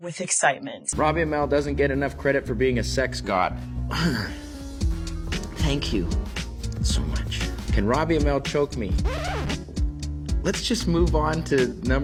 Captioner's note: clears throat